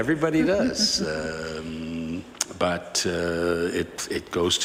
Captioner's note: laughter